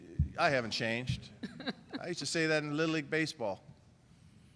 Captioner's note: laughter